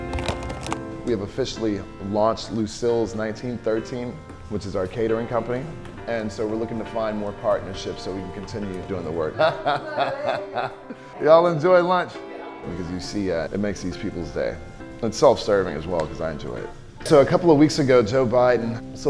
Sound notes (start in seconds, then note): 9.3 laughing